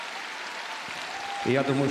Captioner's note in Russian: аплодисменты